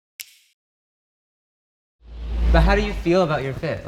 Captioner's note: quick snap